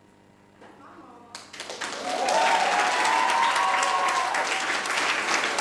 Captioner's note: audience applauding